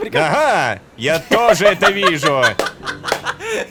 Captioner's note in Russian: Кха-ха-ха-ха-ха-ха-ха!